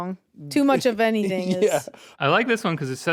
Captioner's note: chuckles